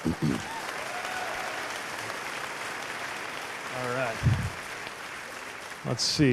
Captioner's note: cheers/applause